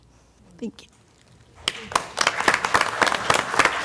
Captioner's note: applause